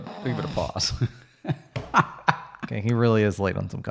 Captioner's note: chuckles